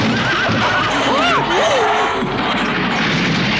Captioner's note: Toad screams